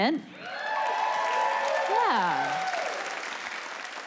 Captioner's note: audience applause